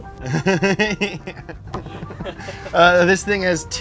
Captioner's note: laughs